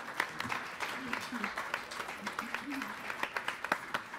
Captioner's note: applauding